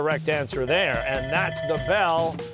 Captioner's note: bell ringing